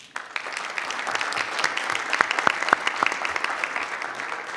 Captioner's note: group applauds